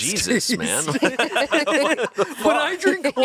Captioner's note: everyone laughs